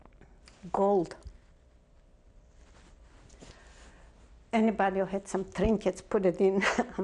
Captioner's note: pauses for 3 seconds